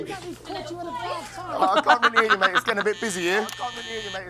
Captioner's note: laughs